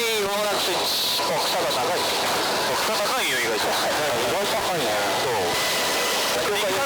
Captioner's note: laughs